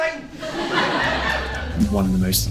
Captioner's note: audience laughing